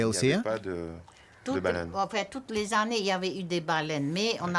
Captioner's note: speaking French